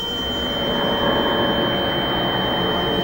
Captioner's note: high-pitched, distorted sound